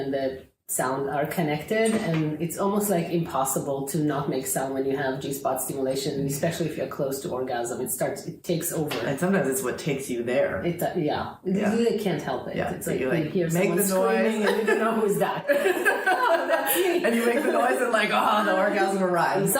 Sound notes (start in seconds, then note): 14.2 laughing